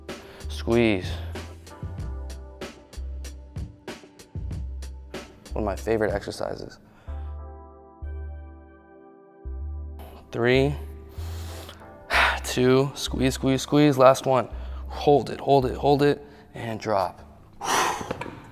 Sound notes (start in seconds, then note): 7.3 soft music; 11.0 inhales and exhales; 17.6 exhales; 18.3 dumbbells clattering